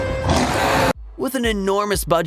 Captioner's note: roaring